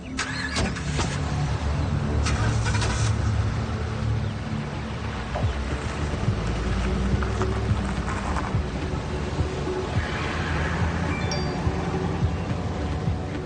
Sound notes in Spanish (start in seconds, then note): 2.2 Sonido al arrancar el motor; 11.1 Alarma de mensaje entrante